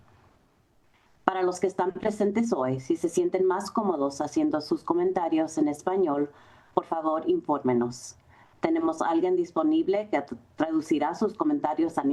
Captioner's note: Spanish